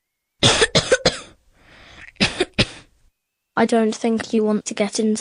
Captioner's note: cough